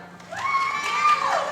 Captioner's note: applause